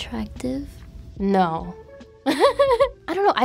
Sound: giggles

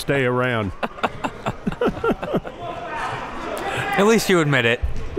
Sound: laughing

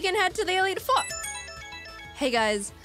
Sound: Alpharad's Pokegear starts ringing

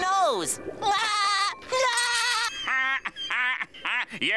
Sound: laughing

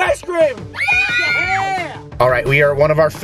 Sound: excited screaming

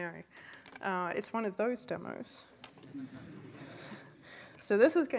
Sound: laughter

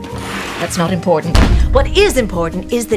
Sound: book slams

